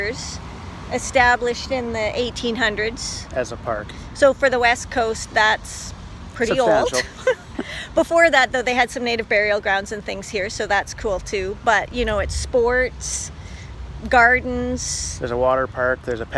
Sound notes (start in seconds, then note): 6.5 laughs